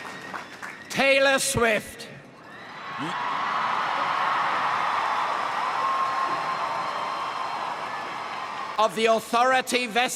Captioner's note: crowd cheering and applauding; crowd cheering